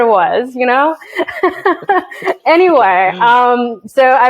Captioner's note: laughs